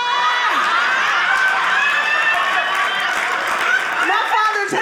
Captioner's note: audience laughing